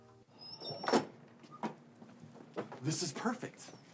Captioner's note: door squeaks